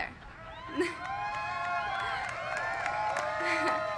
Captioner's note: applause